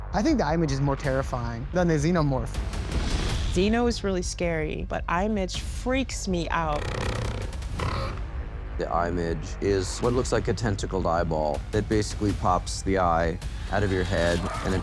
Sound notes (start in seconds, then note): 6.8 unnatural growling